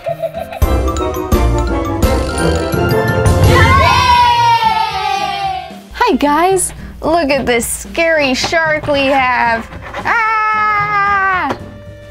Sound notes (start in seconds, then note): 0.1 upbeat music; 3.3 kids cheering